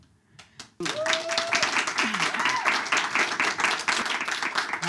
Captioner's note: audience claps